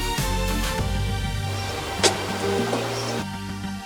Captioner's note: Blanca's phone rings